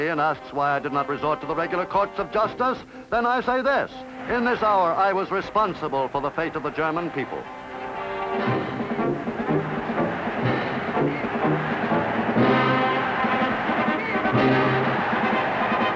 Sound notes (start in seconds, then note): 8.3 crowd roaring; 12.5 dramatic music